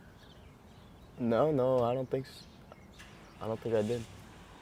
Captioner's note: none